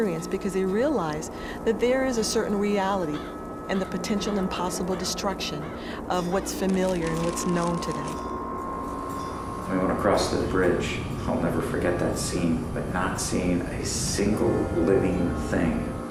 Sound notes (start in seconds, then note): none